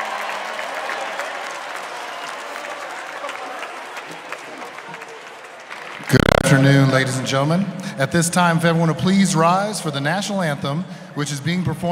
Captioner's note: cheers and applause